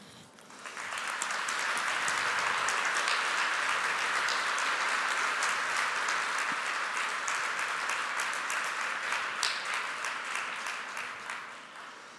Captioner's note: applause